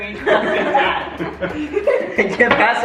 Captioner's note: all laugh